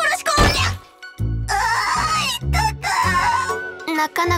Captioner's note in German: schluchz